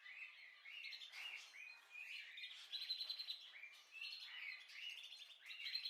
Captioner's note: bird